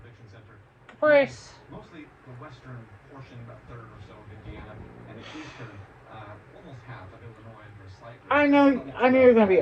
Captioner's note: Caprice continues to growl